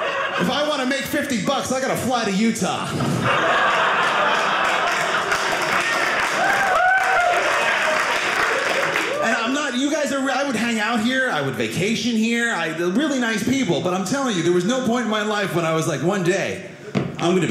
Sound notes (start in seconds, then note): 2.8 audience laughing; 3.6 audience applauding